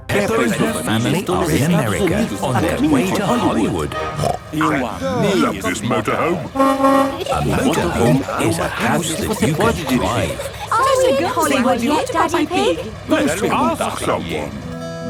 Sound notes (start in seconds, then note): 6.6 honking